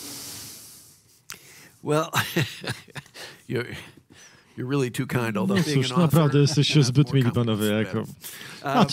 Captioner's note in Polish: śmiech